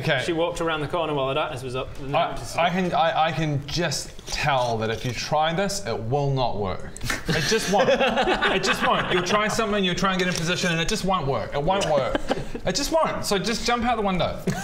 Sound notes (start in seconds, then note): 7.1 laughs in agreement